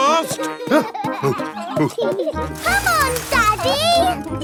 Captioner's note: peppa and george laughing; panting